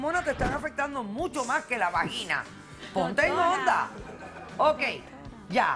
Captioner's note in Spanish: Risas